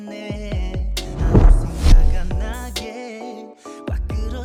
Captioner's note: camera swooshes